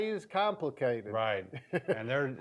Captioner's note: laughs